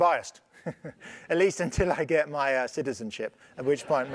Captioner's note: laugh